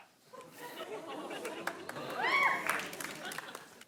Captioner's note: with an accent